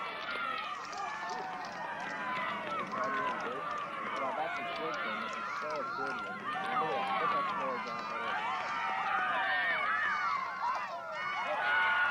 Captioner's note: crowd cheering